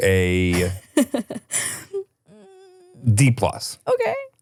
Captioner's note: laughs